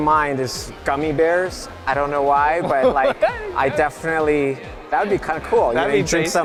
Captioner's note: chuckle